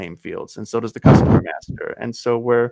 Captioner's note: chuckles